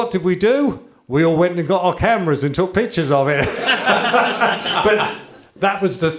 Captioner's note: laughter